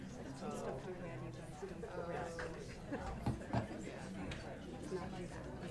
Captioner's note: people chattering